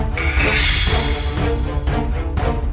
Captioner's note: ominous Drum Music Continues; blade Slashing